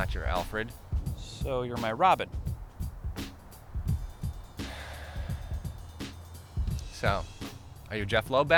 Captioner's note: sighs